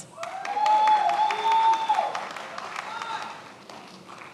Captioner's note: many applauding